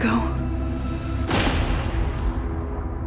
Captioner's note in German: Schuss fällt